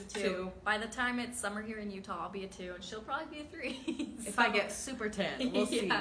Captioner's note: chuckles